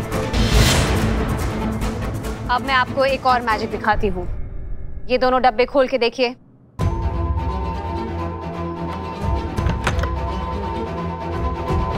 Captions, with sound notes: [dramatic music] Now I'll show you one more magical trick. Open these two boxes. [tense music] [box opens]